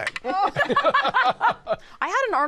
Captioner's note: laughter